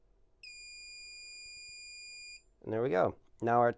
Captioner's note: steady beep